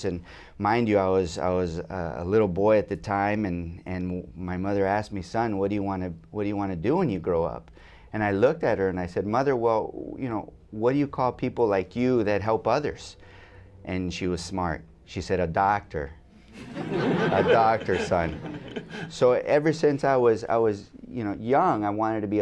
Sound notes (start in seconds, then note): 16.5 laughter